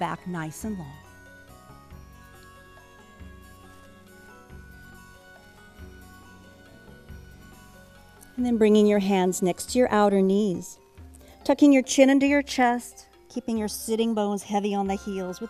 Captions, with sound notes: NICE AND LONG. [ SILENCE ] AND THEN BRINGING YOUR HANDS NEXT TO YOUR OUTER KNEES, TUCKING YOUR CHIN UNDER YOUR CHEST, KEEPING YOUR SITTING BONES HEAVY ON THE HEELS,